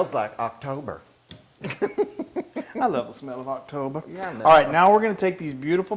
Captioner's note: laugh